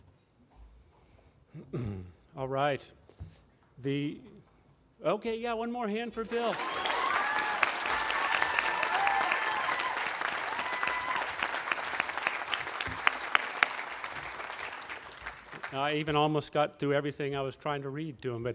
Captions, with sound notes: All right. Okay, yeah, one more hand for Bill. (audience applauding and cheering) I even almost got through everything I was trying to read to him,